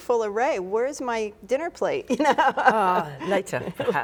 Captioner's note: laughs